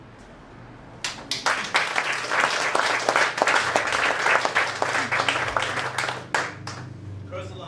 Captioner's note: applause